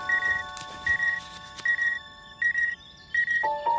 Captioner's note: phone beeping